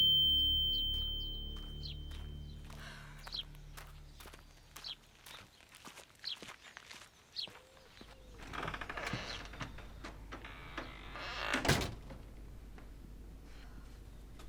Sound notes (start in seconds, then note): 0.0 ringing fades; 2.7 sighs; 8.2 door creaks open; 11.1 door shuts